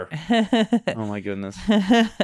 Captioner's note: laughing